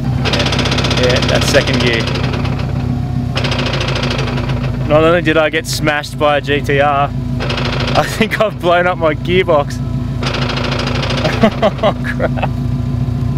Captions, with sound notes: (Gear crunching) "Yea, that's second gear!" (Gear continues to crunch) "Not only did I get smashed by a GT-R... I think I've blowned up my gearbox!" (More gear crunching) "(laughs)....CRAP!"